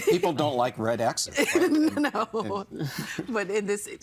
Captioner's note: laughing